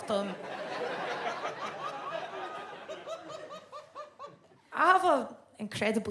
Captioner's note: audience laughs